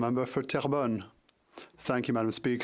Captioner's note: speaking French